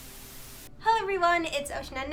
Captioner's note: TV Static